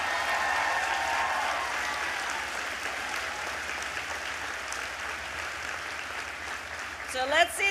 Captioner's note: applause